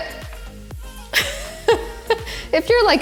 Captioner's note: laughs